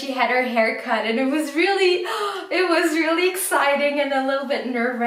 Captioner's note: gasps